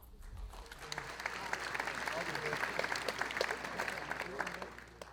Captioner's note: audience applauding